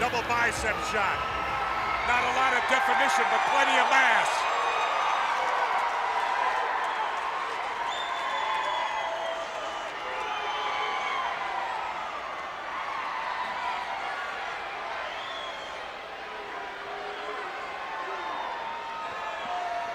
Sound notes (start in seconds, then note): 5.0 crowd cheering